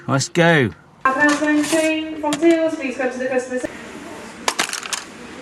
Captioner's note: woman speaking on PA